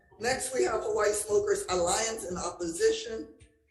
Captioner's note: none